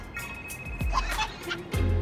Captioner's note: phone ringing, Abby laughing